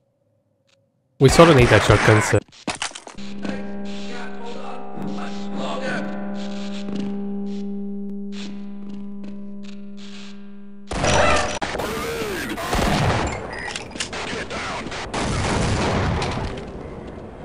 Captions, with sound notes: We sort of need that shotgun so.. I... can't hold on... much longer... [Gunshot] [Scientist screams] Grenade! Get down!